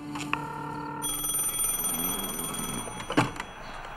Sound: phone rings

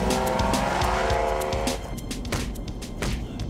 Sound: thuds

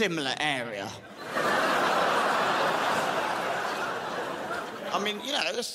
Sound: crowd laughs

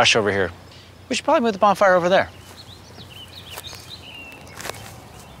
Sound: footsteps approach; birds singing

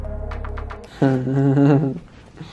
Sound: chuckling

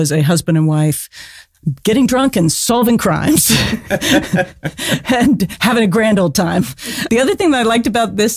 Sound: laughs

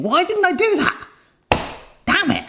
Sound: hand slaps

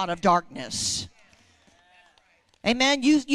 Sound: congregation praising

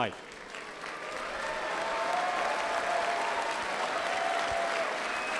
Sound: applause and cheering

